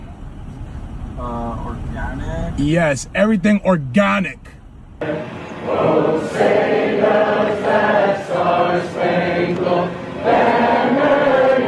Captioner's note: singing; chanting